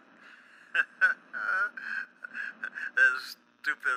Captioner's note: laughs